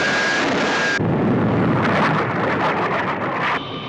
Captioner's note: booming